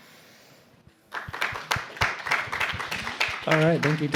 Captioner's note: applause